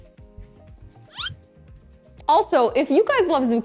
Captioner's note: eyebrow whizzes